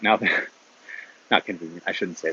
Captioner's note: chuckles